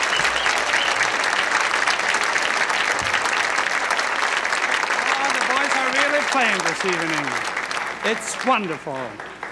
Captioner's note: applause